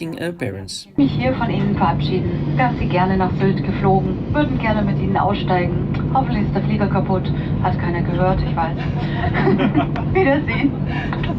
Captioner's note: german